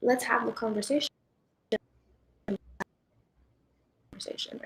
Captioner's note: audio cuts off